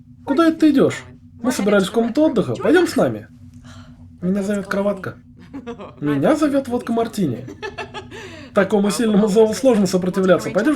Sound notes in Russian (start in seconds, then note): 7.2 смех